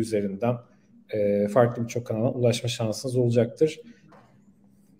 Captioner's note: Turkish speech